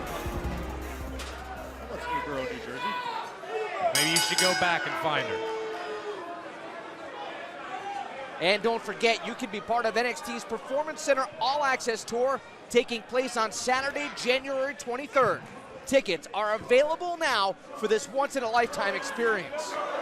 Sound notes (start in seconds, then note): 3.9 bell ringing; 8.6 crowd cheering